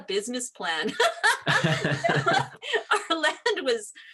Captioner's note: laughs